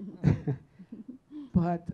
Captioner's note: chuckling